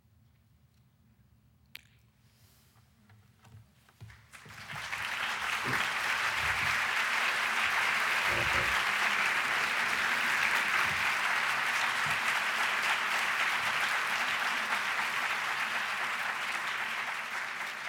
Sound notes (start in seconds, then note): 4.0 applause